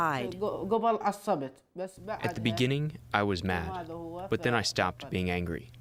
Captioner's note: through translator